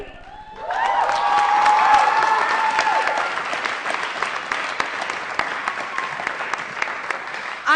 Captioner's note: applause & Cheering